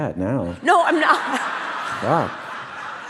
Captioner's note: audience laugh